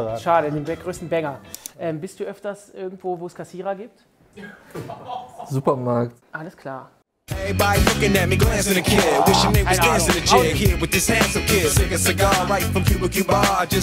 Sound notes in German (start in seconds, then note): 4.2 Lachen; 7.3 Belebte Hip-Hop-Musik